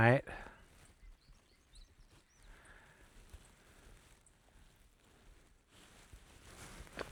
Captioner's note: wind